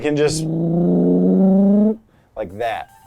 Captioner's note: revving